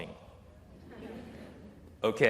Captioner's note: laughter